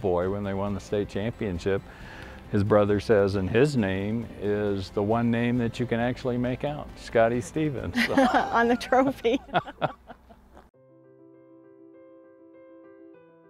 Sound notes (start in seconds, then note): 7.9 laughing; 10.7 piano music